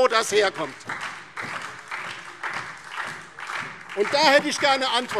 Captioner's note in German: Beifall DIE LINKE und SPD